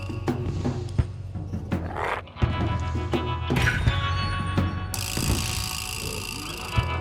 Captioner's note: intense music continues; Smelly growls